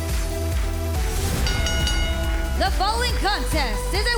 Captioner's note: bell dinging